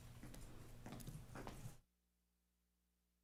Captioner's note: footsteps approaching; audio cuts out